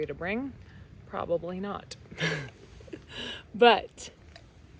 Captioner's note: chuckles